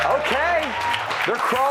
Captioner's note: applause